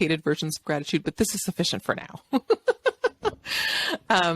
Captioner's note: laughs